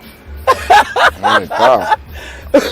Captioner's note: laughing